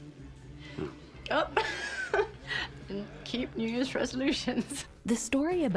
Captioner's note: chuckling